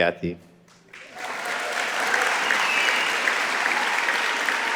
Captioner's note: audience applauding